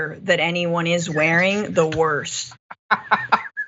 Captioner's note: laugh